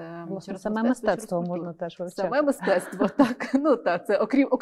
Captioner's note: laughs